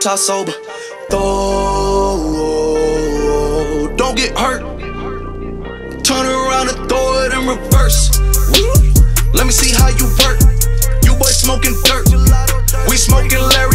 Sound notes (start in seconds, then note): 8.4 whoop